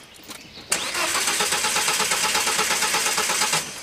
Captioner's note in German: Motor startet nicht